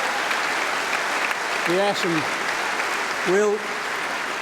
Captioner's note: applause